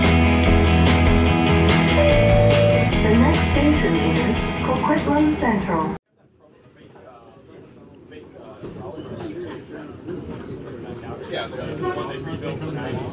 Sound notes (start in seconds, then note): 0.0 intro Music; 2.0 Skytrain Chime